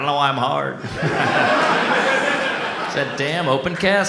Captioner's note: audience laughs